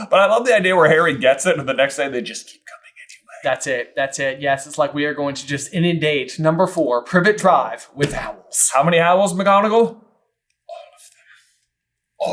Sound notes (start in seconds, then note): 10.6 quiet and sinister